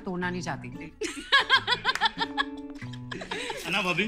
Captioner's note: Women laughing